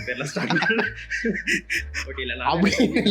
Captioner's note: laugh